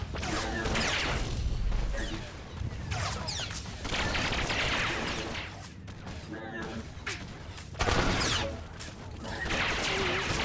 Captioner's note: gunshots